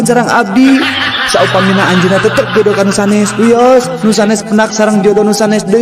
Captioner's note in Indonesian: tertawa